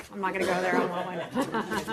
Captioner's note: laughter